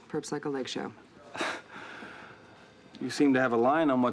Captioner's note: chuckles